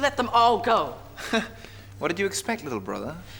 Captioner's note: laughs